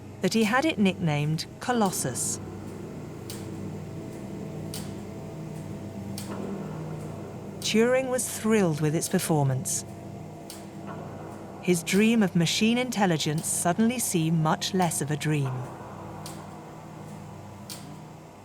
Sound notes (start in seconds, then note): 3.3 machine clicks; 3.3 machine whirs